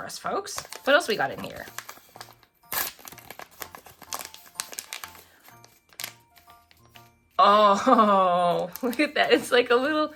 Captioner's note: laughs